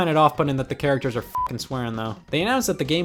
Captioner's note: beep